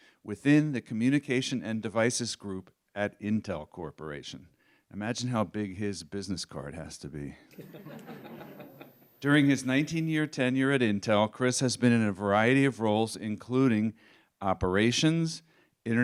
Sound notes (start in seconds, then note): 7.5 laughter